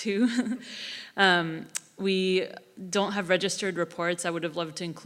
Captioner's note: laugh